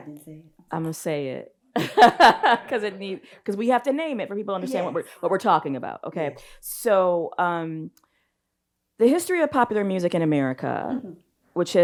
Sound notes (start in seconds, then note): 1.8 laughs